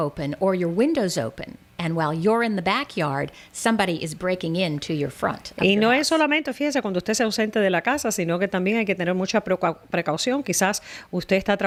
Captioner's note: Hablando ingl\s